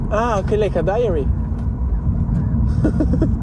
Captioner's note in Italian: Risate